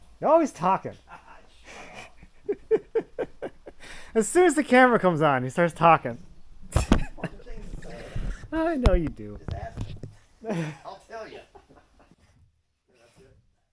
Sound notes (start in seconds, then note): 1.0 laughs; 8.1 speaks off mic